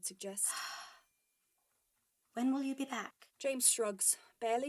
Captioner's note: she sighs